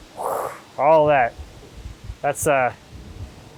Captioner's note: imitating air whooshing